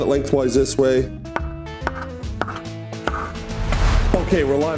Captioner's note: knife thuds